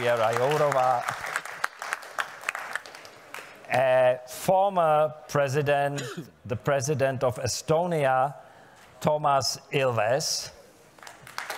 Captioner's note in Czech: Potlesk